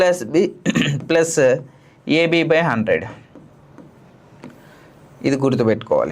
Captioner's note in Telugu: గొంతు సవరించుకోవడం